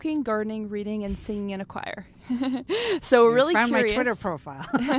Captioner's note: laughs